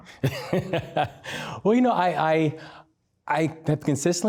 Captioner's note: laughs